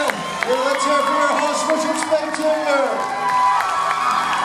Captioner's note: cheers, applauds